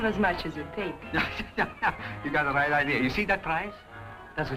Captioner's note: laughs